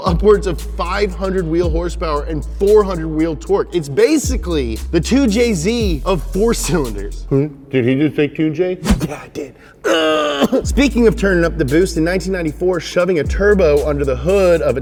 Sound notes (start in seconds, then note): 9.8 groan